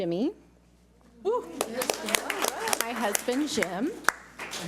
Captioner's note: audience applauds